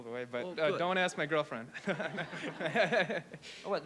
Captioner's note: laughs